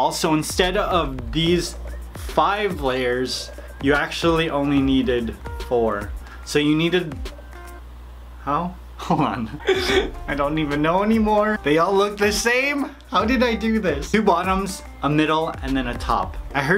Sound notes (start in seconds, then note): 9.5 laughs